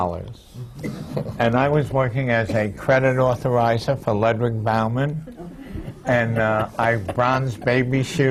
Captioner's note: laughter